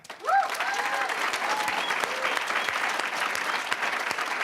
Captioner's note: applause, cheering; applause